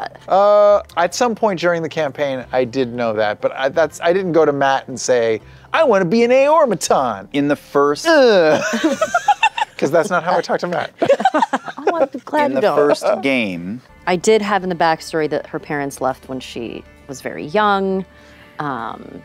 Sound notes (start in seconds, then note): 8.4 laughter